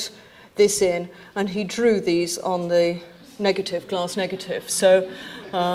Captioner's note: audience titters